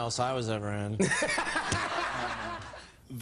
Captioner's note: laughs